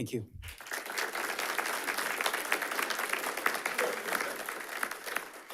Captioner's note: audience applauding